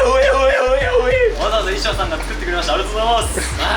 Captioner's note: noisy crew while on standby before the show; vocal warmups 🦍; noisy crew while on standby before the show